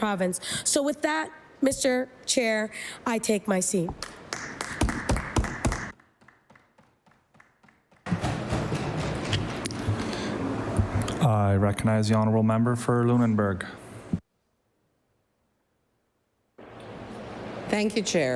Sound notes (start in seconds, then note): 6.9 applause